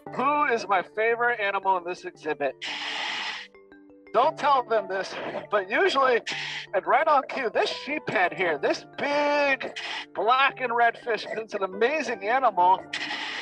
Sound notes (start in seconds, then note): 6.3 loud exhale